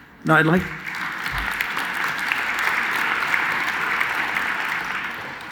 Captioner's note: audience clapping